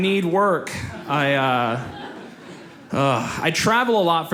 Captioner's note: audience laughs